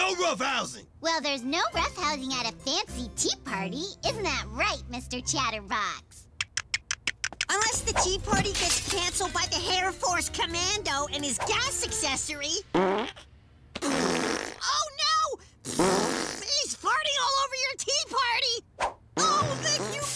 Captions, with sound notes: NO ROUGHHOUSING! - Well, there's no roughhousing at a fancy tea party, isn't that right Mr. Chatterbox? - (Teeth chomp) - Unless the tea party gets cancelled by the Hair Force Commando and his gas accessory. (Farts) (Fart noises) Oh no! He's farting all over your tea party!